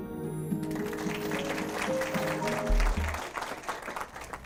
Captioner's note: applause